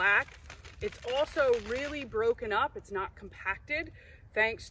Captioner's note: crunching of leaves